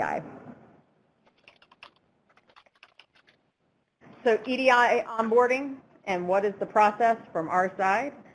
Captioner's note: typing